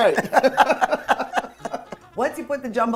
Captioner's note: women laughing